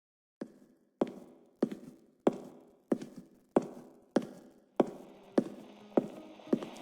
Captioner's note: listener walking down reverberating hotel hall fx